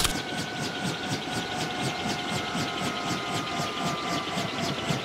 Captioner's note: typewriter clicking; helicopter blades whirring